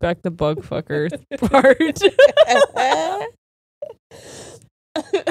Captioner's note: all laughing